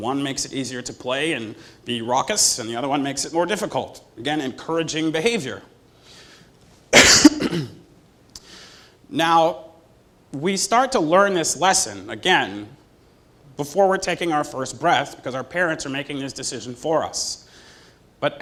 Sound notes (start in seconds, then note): 6.9 cough